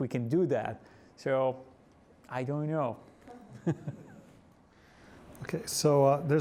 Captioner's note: laughs